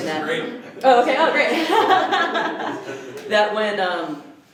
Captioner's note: laughter; laughs